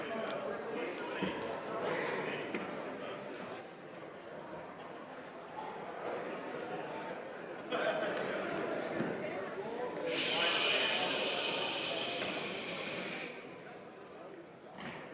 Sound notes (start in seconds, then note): 1.3 speaking French